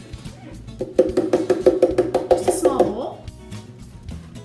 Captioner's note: thumping on blender